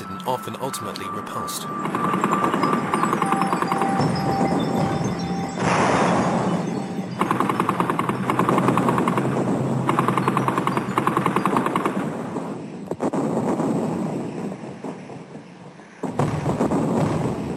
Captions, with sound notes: and often ultimately repulsed. [explosions blasting] [guns firing] [explosions blasting]